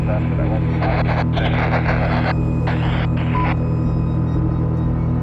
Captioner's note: static crackling